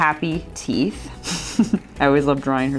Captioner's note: chuckle